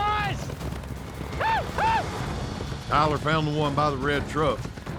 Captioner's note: yells